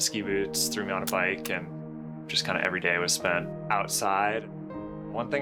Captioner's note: camera clicking